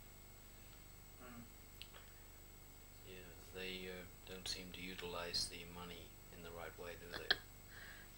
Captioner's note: shri mataji laughs